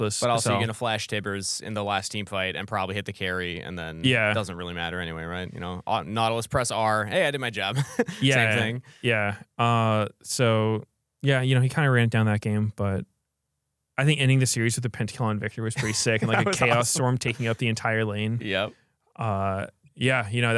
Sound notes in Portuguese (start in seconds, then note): 7.7 risos; 15.7 risos